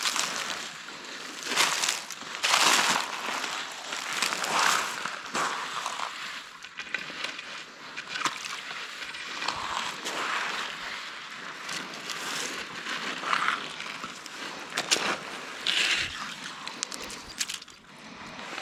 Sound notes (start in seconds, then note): 4.8 leaves crunching